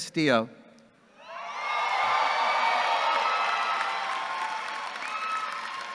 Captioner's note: audience cheering and clapping